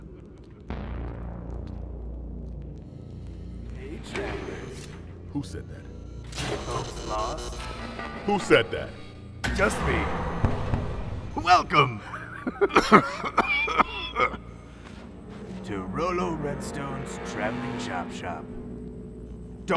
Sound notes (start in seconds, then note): 12.0 laughing; 12.1 coughing